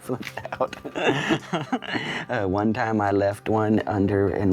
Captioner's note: laughs